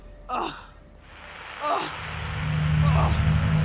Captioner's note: static white noise; Arawn groaning